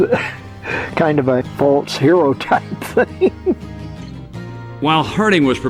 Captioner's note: laughs